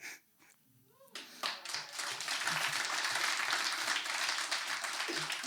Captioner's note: audience applauds